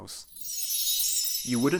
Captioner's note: chime